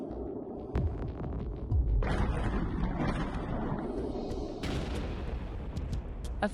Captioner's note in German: Explosionsgeräusche